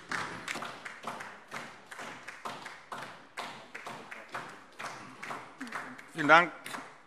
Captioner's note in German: Beifall DIE LINKE und SPD